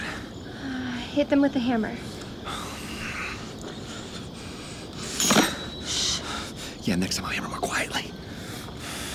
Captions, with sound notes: Okay, now what? - Hit them with a hammer. (hammer banging) Shh. - Yeah, next time I'll hammer more quietly.